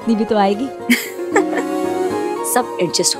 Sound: chuckling

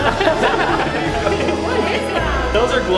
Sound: adults laugh

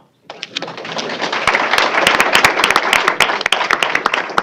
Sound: applause

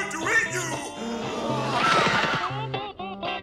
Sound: screaming

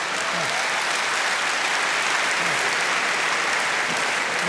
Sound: applause

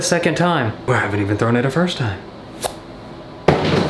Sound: banging

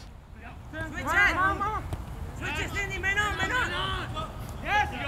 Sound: players yelling

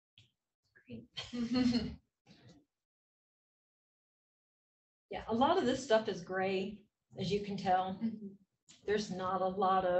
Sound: laugh

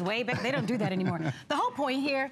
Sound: laughter

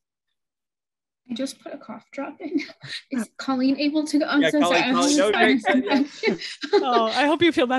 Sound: laughs

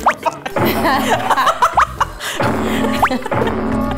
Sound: laughing

